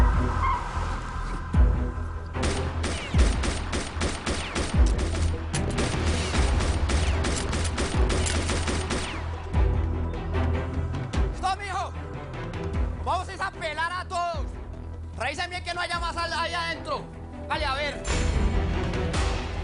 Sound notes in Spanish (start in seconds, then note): 0.1 Chirrido de gomas; 2.4 Disparos